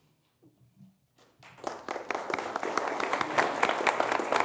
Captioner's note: applause